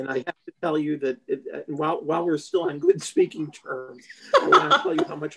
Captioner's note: laughter